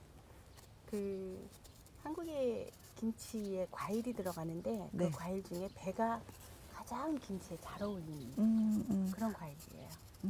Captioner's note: speaking Korean